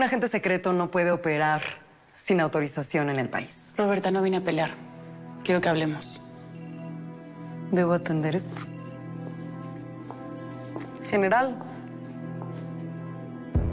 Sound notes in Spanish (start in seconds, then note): 7.9 Suena el celular